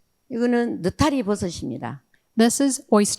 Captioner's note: speaking in foreign language